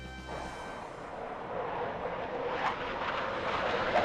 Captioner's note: suspenseful music; aircraft whirring